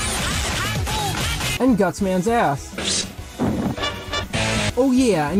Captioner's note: Gutsman’s Ass sound effect